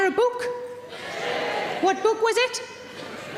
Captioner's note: audience cheering